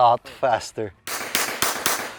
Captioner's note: gunshots